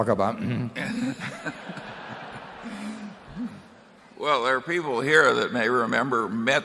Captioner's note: laughter